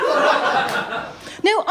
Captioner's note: laughter